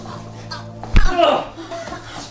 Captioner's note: gagging; thudding; groaning